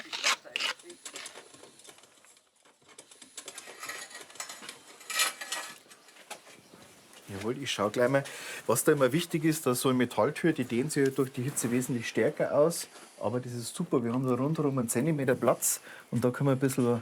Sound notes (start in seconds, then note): 0.8 soft rattling